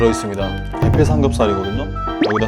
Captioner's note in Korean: 두둥